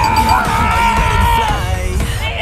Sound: ding-ding-ding-ding; shouting, cheering

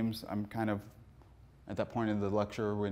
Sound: none

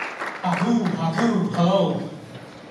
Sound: speaking in foreign language

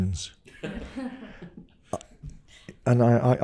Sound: guests laughing

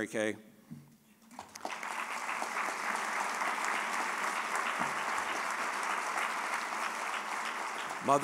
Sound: applause

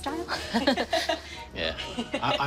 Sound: laughs

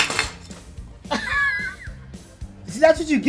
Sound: laughing

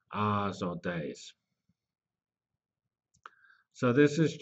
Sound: pause

